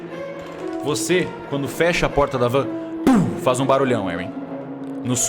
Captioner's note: thump!